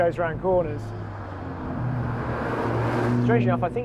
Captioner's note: car engine revving